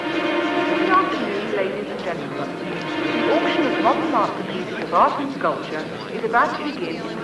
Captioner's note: announcement on the intercom